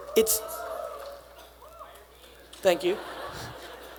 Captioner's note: attendees cheering